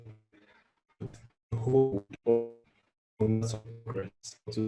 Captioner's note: audio distorting